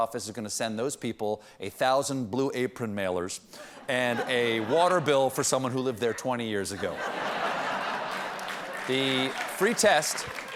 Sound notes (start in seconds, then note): 5.9 laughter